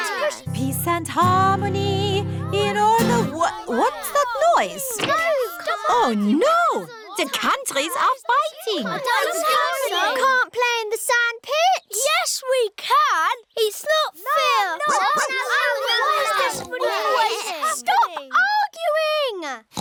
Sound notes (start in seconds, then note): 2.6 commotion; 14.8 barks; 16.4 oinks; 19.4 oinks